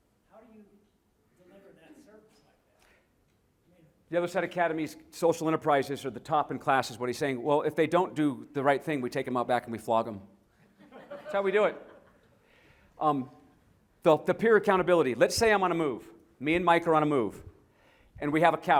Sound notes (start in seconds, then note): 10.6 laughter